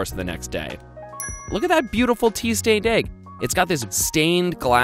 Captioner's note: dings